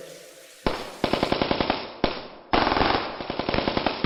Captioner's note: rifles shooting